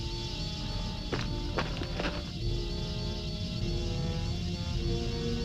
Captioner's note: footsteps crunching